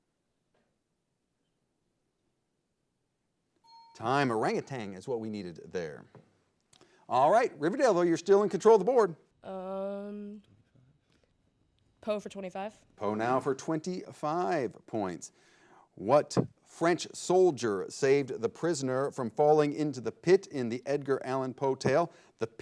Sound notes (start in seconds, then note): 3.6 bell chimes